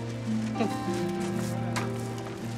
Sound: chuckles

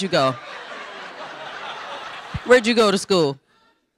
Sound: audience laughing

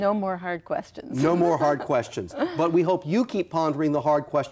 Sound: laughs

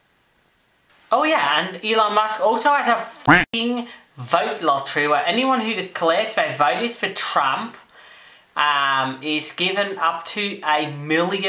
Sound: quack

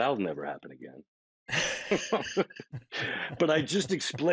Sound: both laughing

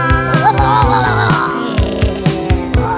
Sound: groaning and growling

